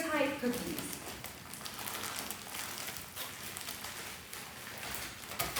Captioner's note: plastic bag crinkles